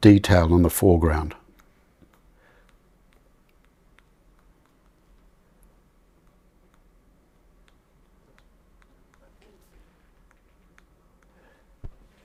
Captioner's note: silence